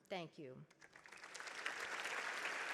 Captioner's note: audience clapping